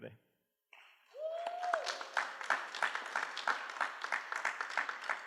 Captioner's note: applause